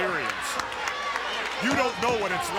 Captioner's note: someone claps